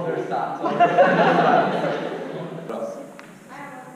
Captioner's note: audience laughs